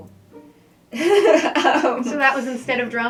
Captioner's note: laughing